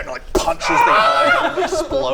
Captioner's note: Greghelm scream